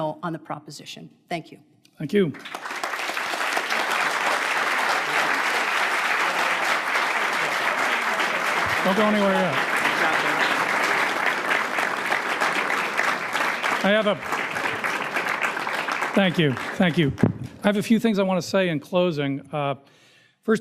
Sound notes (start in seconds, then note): 4.3 crowd applauding